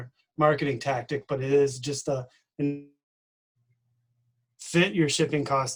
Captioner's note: distorted speaking